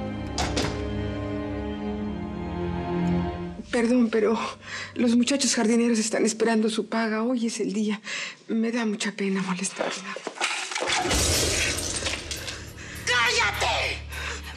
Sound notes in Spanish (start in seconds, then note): 11.0 estruendo